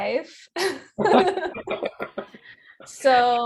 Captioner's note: laughing